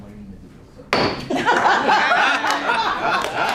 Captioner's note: laughter